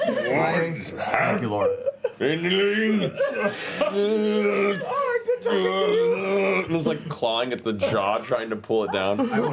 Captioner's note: grunting